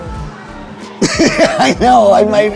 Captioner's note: laughing